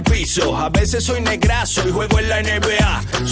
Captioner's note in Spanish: none